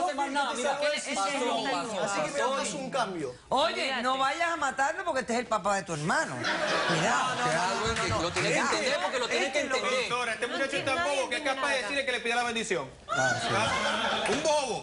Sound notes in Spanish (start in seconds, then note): 6.4 Risas; 8.9 Hablan al unísono